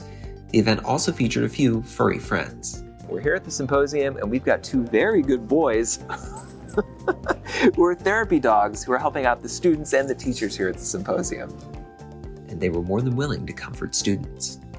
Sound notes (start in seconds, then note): 6.0 chuckles